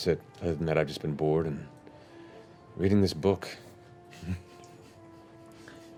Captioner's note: chuckles